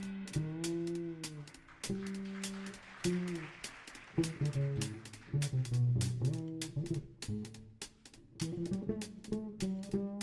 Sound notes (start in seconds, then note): 1.4 audience applauding